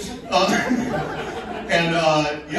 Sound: laughing

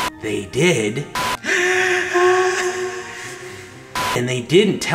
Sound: hysterical breath

